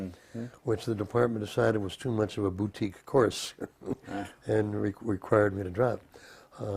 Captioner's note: laugh